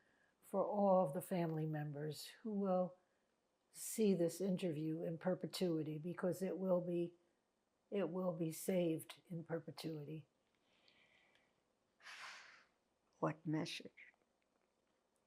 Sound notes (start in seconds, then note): 12.1 sighing